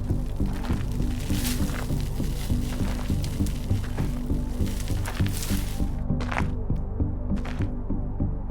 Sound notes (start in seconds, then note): 2.4 footsteps crunching